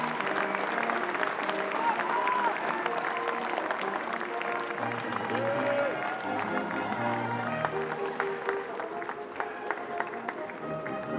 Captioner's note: applause